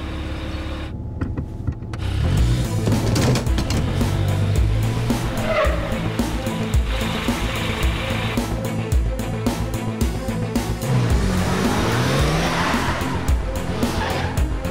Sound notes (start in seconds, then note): 1.9 action music; 5.1 tires screech